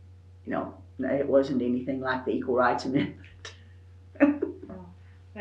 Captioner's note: laughs